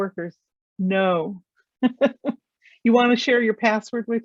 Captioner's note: laughs